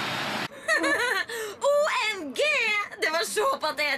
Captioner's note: laughs